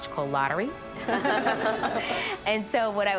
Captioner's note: laughter